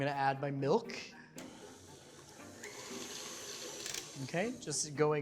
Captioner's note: mixer whirring